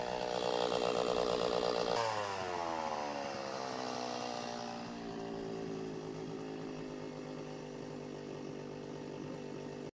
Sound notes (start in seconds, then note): 1.1 chainsaw idling